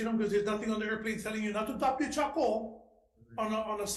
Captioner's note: speaking in foreign language